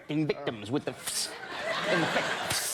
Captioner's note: makes spraying noise